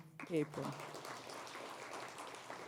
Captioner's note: applause